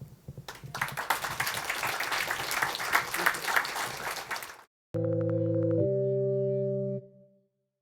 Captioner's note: applause